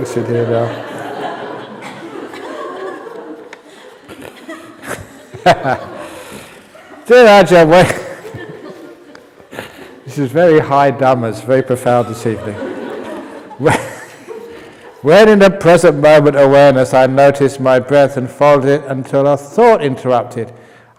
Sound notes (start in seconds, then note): 2.8 laughs; 5.8 chuckles